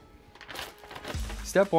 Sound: bag crinkling

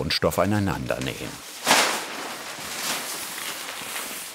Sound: rustling fabric

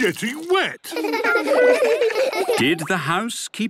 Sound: laughter

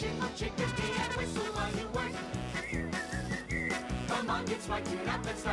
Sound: whistle

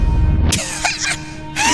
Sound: cough

